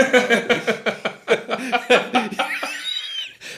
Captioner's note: all laughing